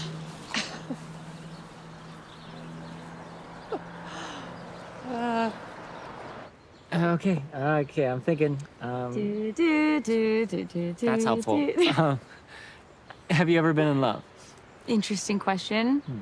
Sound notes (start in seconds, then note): 0.5 Grace chuckles; 3.9 Grace sighs; 9.2 Zoe humming; 11.3 laughs